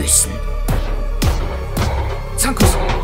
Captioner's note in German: Säule kracht auf Merlus